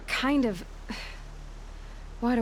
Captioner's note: sigh